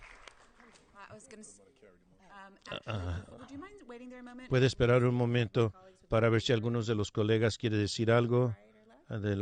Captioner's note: applause